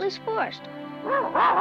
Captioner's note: Arrow barks